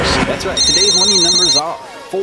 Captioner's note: phone ringing; man On Radio